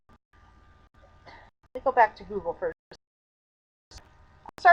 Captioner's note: sighs